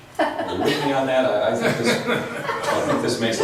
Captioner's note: laughs